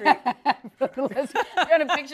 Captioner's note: laughter